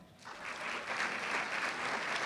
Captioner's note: applause